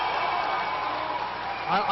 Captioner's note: applause